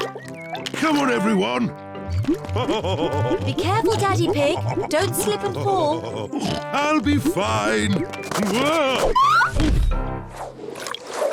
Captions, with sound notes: Come on, everyone! (LAUGHS) Be careful, Daddy Pig! Don't slip and fall! I'll be fine! Whoa! Oof!